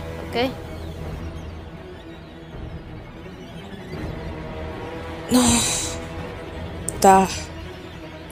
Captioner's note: angry grunting